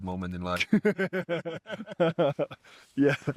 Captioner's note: laughter